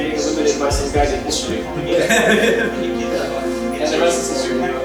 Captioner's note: laughs